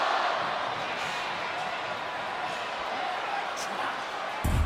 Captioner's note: crowd chattering